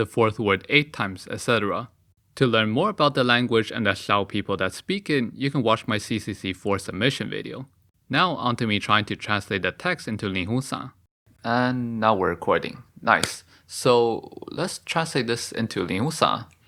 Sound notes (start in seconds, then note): 13.1 clap